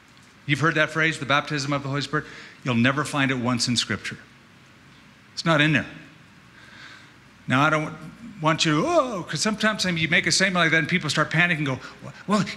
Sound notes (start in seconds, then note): 8.4 frightened noise